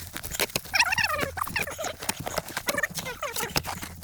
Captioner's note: sped up chattering